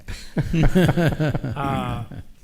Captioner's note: all chuckle